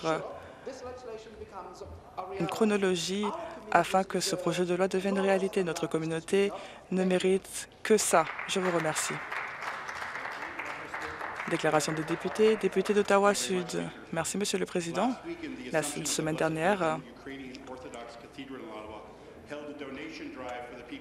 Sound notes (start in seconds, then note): 11.4 applause